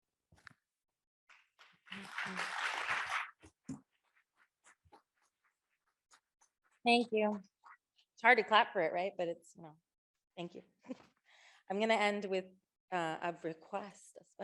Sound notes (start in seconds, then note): 1.8 audience applauding